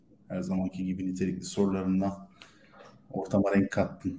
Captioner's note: Turkish speech